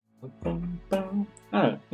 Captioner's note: humming along